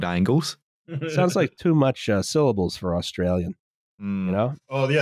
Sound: chuckles

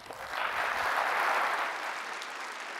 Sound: applause

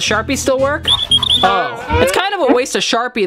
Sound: squeaking

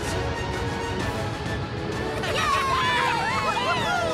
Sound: all cheering

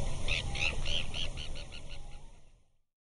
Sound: bird tweeting

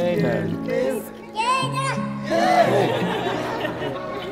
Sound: laughing and smiling as the baby gurgles excitedly

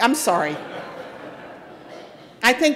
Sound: audience laughing

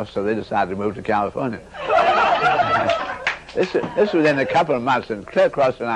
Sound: the audience breaks into uproarious laughter

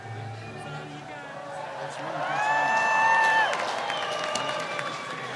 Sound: cheers and applause

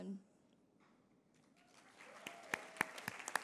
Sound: applause

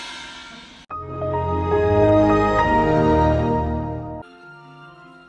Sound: Old windows sound

